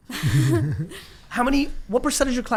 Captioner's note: laughing